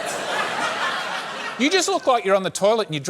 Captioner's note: laughter